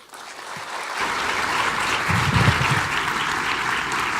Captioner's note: audience clapping